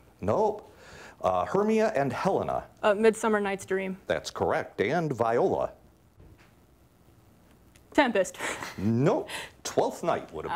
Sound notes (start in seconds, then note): 7.5 laughs